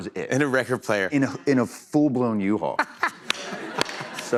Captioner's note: laughter